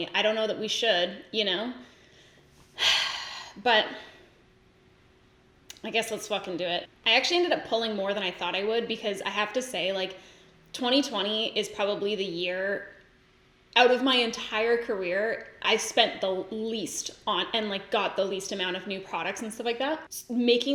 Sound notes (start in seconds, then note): 2.8 sighs